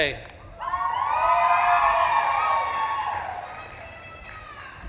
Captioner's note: audience claps and cheers